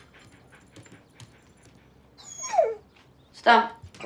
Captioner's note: whimpering